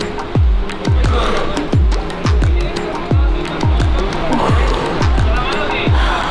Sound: people chattering in foreign language

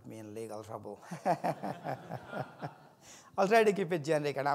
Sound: audience laughs

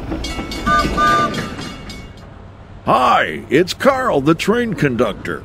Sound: train wheels clicking

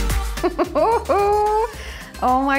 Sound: upbeat music; laughs

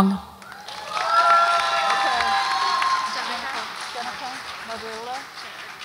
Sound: audience applauds and cheers

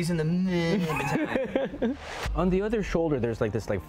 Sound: laughs

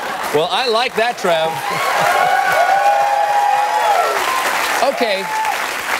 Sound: cheers

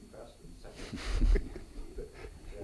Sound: males chuckle

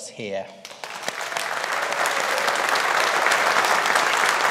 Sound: audience applauding

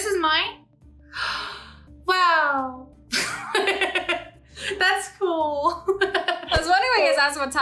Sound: gasps; laughs

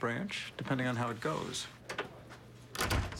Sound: door closes

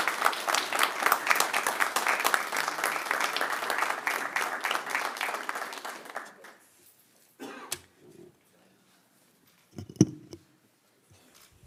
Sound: applause

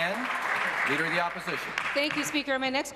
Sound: applause

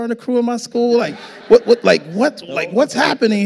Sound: audience laughing

